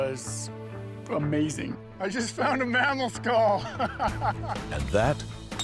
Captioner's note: laughs